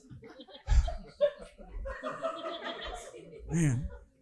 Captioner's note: audience laughing